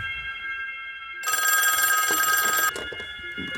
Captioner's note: phone rings again